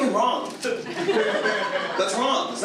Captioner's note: audience laughs